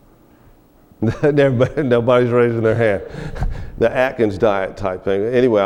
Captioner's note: chuckles